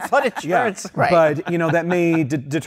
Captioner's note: laughter